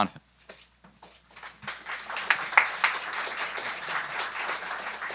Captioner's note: applause